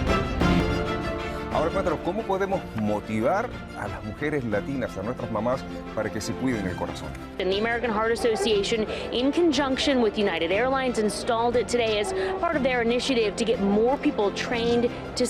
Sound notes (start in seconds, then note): 1.7 interviewer speaks in foreign language